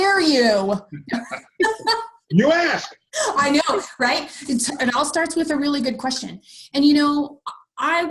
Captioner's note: all laugh